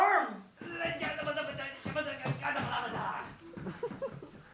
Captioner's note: More shouting in Florida